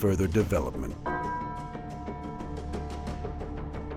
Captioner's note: bell rings